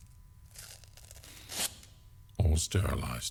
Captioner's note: fabric being rustled